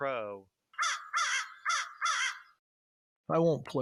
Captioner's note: American crow chirping